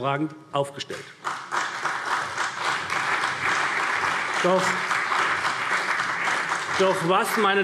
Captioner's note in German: Beifall CDU und BÜNDNIS 90/DIE GRÜNEN